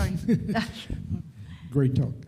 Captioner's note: speaker laughs